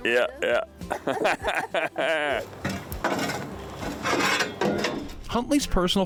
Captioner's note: chuckles